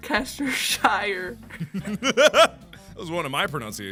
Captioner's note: laughter